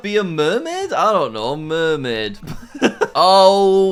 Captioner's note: laughs